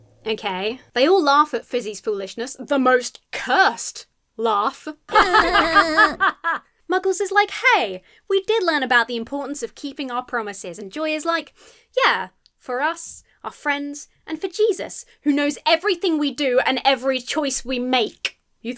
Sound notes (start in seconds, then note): 5.1 laughs threateningly; 5.1 fish laugh balefully